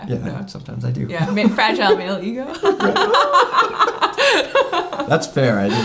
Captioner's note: laughing